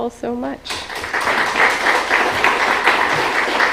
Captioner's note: applause